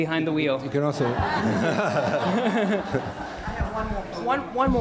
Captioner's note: laughing